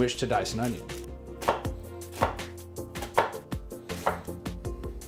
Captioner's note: knife chopping